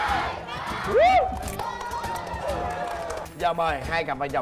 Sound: applause

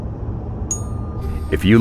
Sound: ding

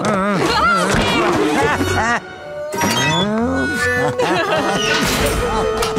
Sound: laughing

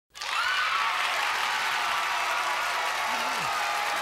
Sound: applause

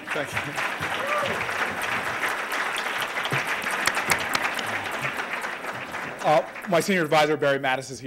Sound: applause

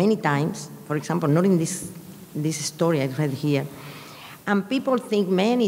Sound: speaking in a foreign language

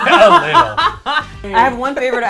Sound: laughs

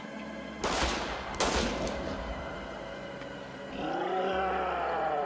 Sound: gunshots booming; roaring

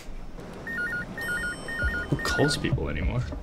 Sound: phone ringing

